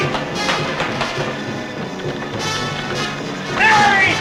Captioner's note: buzzing